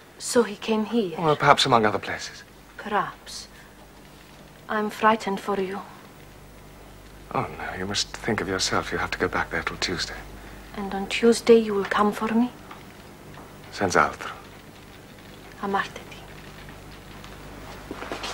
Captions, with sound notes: - So he came here? - Perhaps among other places. Perhaps. l am frightened for you. No, you must think of yourself. You have to go back there till Tuesday. And on Tuesday you will come for me? (Speaks Italian) (Speaks Italian)